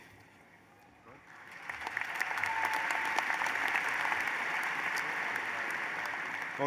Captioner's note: applause